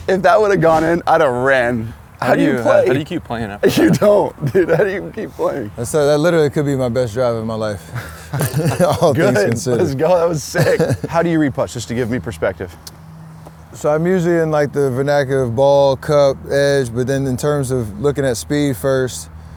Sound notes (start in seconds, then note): 7.7 laughs